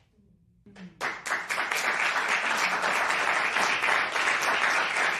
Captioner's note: applause